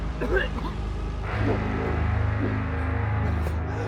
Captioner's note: cracking; coughing